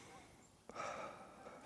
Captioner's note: exhales